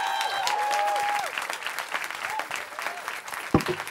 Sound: cheering

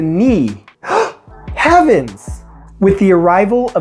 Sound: gasp

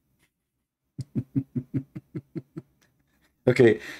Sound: Ketawa

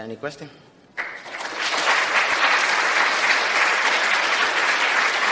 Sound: applause

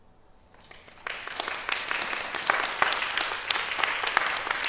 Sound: applause

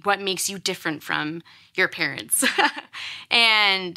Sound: laughs

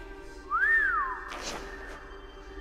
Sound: whistles

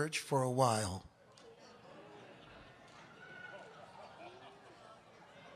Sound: audience gasps and laughs

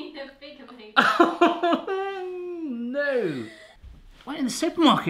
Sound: laughs

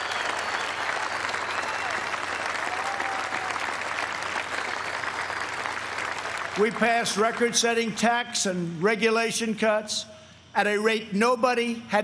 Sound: applause

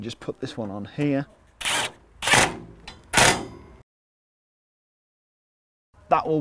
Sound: impact gun screwing in

